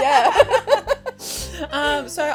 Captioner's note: both laughing